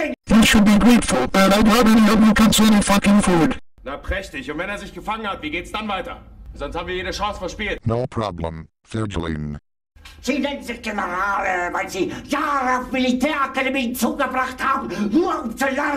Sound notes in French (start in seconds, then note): 3.7 parlant dans un anglais simple; 10.1 criant dans un anglais simple